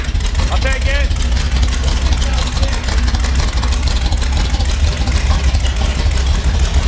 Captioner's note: hands clapping